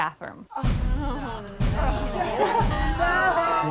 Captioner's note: women all exclaiming in disappointment